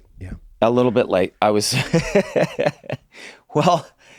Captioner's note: laughs